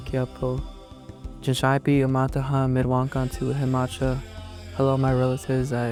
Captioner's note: speaking in Dakota language